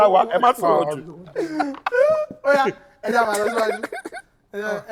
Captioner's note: laughs